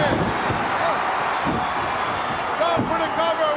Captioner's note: crowd cheers